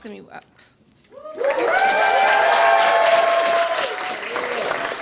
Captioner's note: cheers, applause